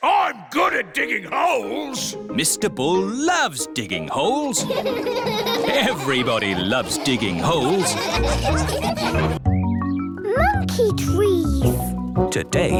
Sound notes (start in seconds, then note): 4.5 all laughing